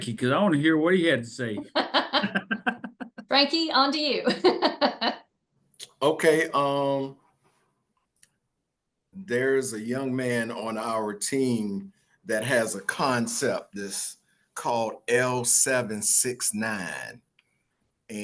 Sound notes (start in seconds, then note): 1.6 laughter; 4.3 laughs